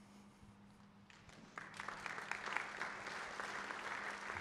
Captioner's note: applause